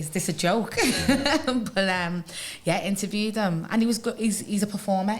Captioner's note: laughter